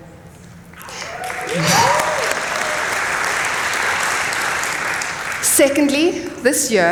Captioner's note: applause